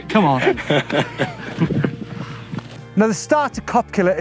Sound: laughter

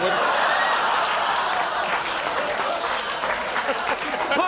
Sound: laughter

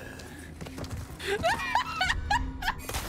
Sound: laughter

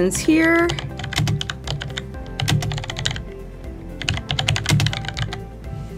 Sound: typing

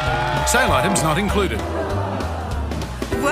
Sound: groaning

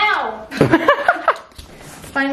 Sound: laughs

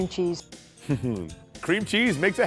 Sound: laughter

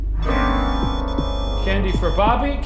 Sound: tense dramatic music; REM-Pod beeping

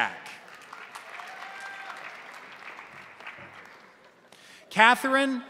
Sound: crowd applauding; crowd cheering

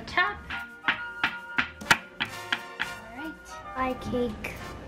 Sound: tapping

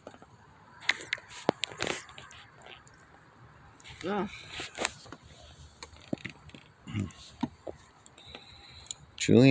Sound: the phone moving around

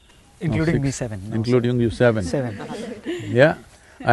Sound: laughter

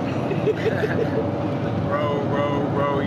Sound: laughter

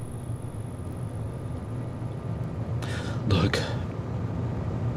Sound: sound of campfire and crickets fade; ambient sound of space module fades in

